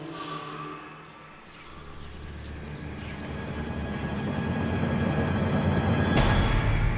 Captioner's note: dramatic orchestral music; ominous whispers